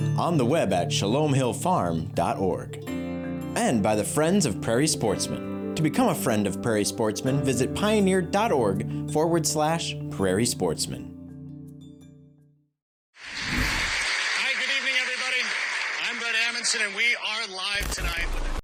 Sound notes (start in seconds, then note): 13.3 audience applauding